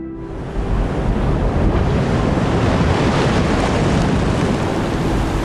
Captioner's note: gentle music continues; waves crashing